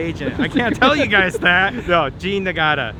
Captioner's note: both laughing